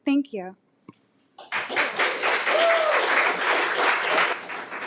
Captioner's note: audience clapping